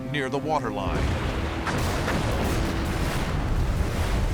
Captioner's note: explosions